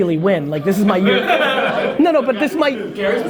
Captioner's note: group laughter